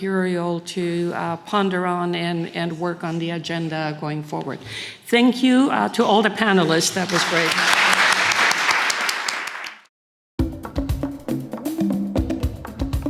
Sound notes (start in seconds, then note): 6.6 audience applauding